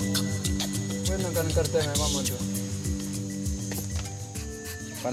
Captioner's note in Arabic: صوت Bijago منطوق